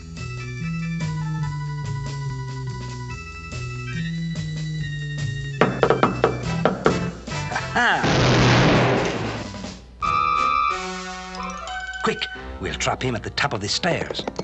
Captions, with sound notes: [taps feet in tune] A-ha! [gun fires] Quick, we'll drop him at the top of the stairs.